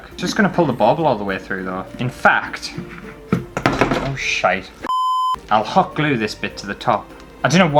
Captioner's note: beep